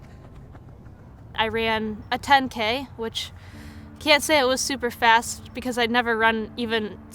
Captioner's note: none